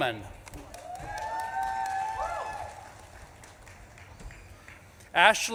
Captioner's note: audience claps and cheers